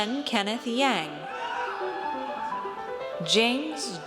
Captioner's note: audience cheers